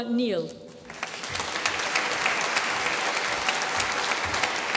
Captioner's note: applause